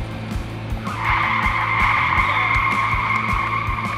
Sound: tires screeching

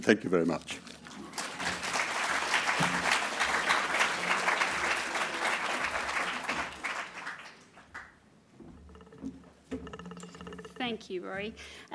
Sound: applause

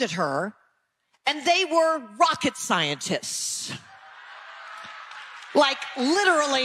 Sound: audience laughing

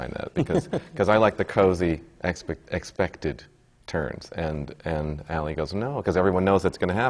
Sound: laughs

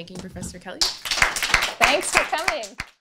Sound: applause

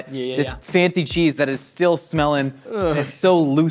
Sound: groans

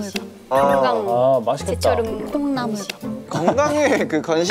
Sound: gulp

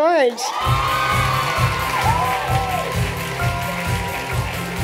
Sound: cheering and applause

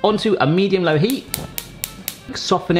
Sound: clicking

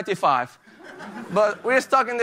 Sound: laughter

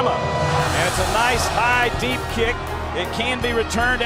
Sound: crowd cheers

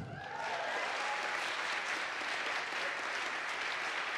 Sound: audience applauds

